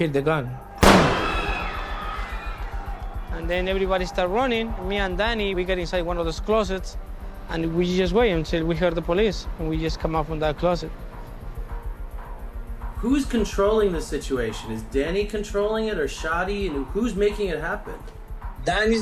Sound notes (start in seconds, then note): 0.8 gunshot; 1.2 screaming